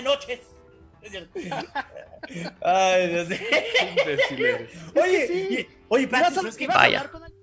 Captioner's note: laughing